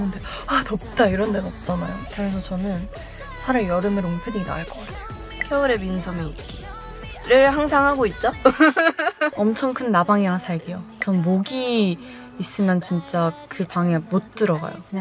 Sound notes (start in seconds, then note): 8.4 laughing